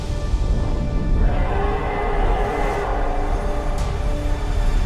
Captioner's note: dragon roars